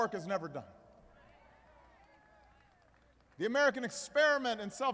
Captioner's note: applause